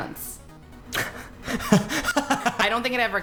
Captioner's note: laughs